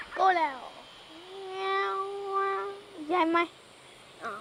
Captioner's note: foreign language